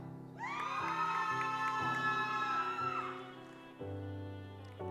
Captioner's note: audience applauds